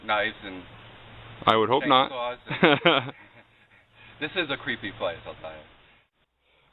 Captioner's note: laugh